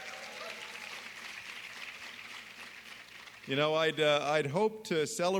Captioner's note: applause